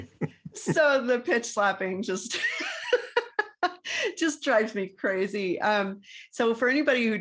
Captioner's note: laugh